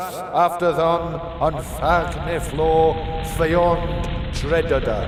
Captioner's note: fire crackling